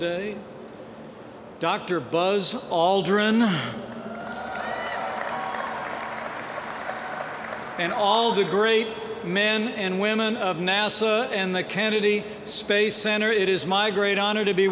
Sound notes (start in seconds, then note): 5.6 applause